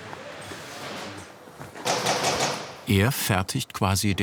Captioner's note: loud stapling